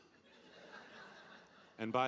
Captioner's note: audience laughing